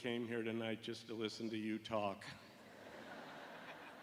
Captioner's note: laughter